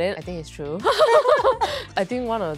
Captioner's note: laugh